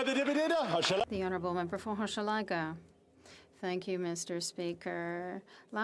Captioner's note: some Applause